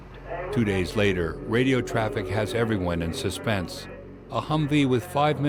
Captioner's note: voiceover